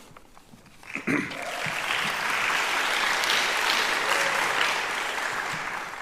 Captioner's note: applauding; cheering